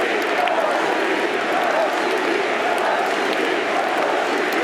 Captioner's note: crowd chant continues